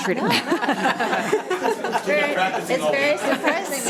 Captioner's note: all laughing